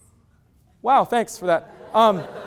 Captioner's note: loud laughter